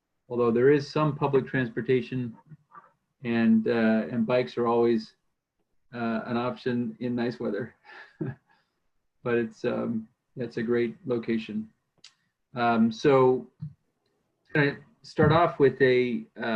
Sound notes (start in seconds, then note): 8.0 laughs